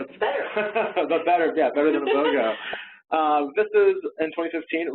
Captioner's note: laughing